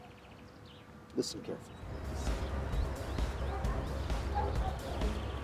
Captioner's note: speaks faintly